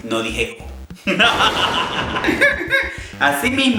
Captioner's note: evil laughter and thunder